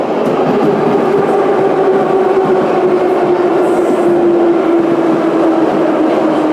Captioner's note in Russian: торможение - прибытие на станцию